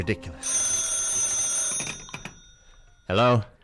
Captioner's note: telephone rings